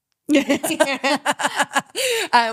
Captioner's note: both laughing